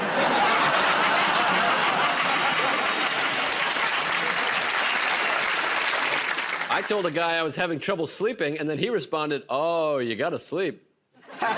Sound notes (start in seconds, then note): 0.0 laughter; 2.9 applause